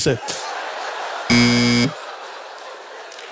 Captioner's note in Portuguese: campainha